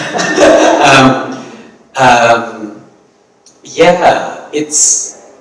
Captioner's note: audience laughing